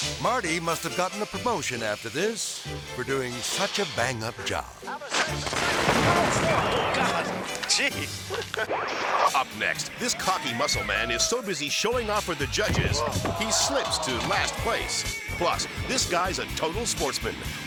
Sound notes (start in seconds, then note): 3.4 fire hissing; 5.2 fireworks exploding; 8.5 screen static; 13.3 man groaning